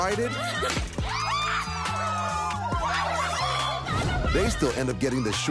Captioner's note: all shout, laugh